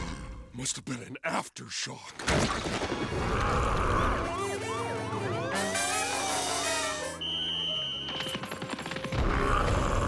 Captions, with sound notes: Must have been an after shock! [sirens wailing] [stomping]